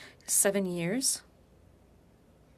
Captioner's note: speaking French